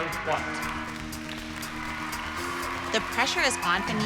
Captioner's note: audience applauds